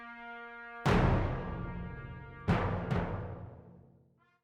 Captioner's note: metal thuds